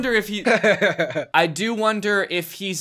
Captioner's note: laughs